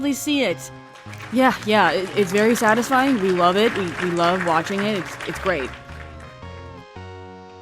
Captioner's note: applause